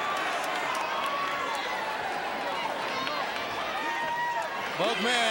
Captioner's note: crowd cheering